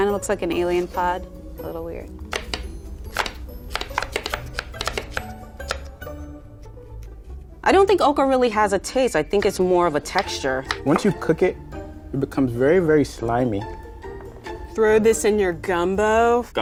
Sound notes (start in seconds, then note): 3.0 knives tapping